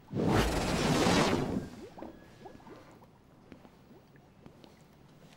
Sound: laser sound effects

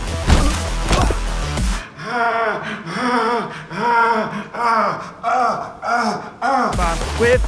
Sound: groaning

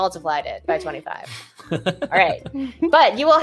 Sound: laughs

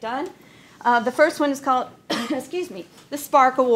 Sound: coughs

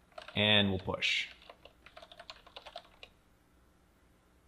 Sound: keystrokes

